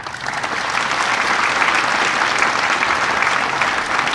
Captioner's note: audience applauding